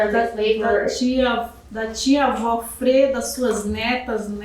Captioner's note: speaking portuguese